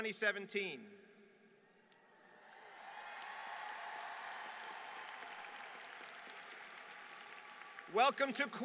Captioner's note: applause